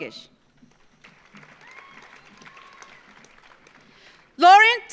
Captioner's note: audience applauds